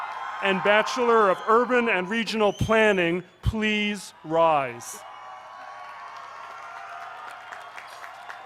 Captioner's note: cheers